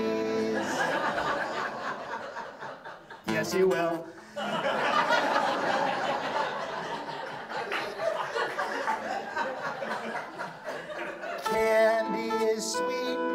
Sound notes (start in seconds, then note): 3.3 audience laughs; 6.7 audience laughs